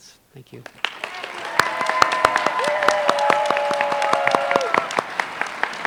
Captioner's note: applause